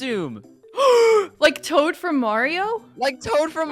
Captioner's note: gasp